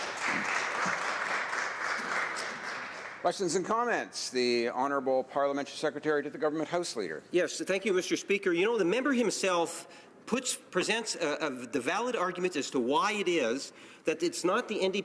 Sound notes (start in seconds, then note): 2.5 applause